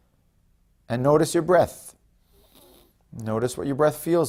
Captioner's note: inhales